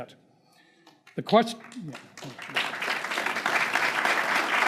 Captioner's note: crowd applauding